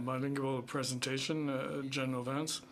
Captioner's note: speaking in French